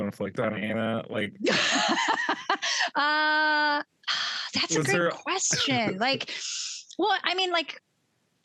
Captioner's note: laughs